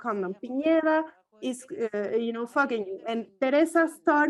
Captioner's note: foreign language